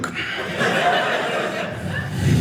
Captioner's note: audience laughing